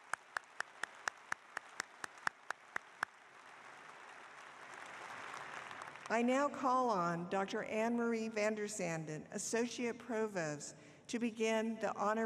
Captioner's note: applause